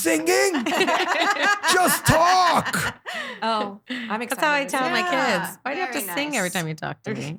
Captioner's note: laughing